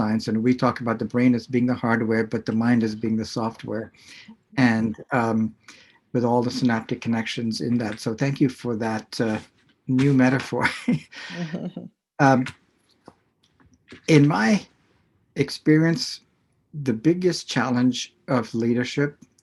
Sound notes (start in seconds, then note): 10.0 laughs